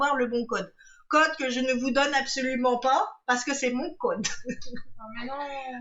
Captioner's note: laughs